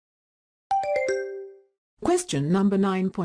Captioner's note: question ding